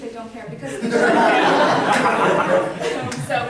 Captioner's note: laughter